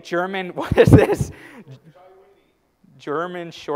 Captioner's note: laugh